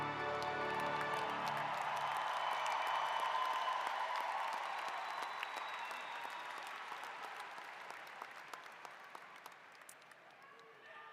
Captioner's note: applause